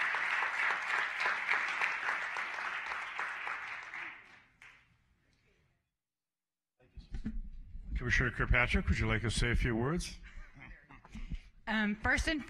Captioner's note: applause